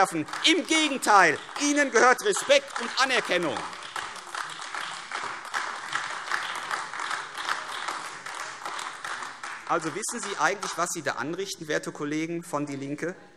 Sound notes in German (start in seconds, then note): 4.3 Anhaltender Beifall AfD